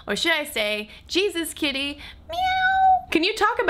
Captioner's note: meows